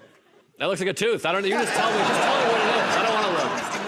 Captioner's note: laughter